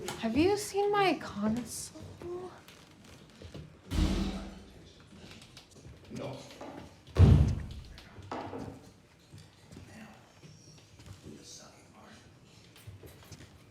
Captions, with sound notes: Have you seen my console? (Banging sound) (Thumping sound)